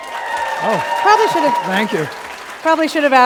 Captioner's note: applause